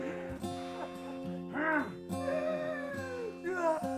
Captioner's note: sobs; Skull-Faced Assailant growls; Sue shrieks